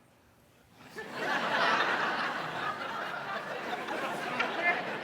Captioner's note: audience laughs